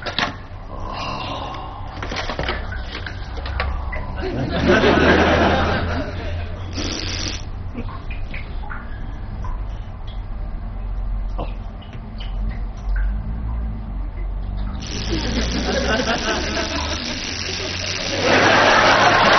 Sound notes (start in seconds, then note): 4.0 laughs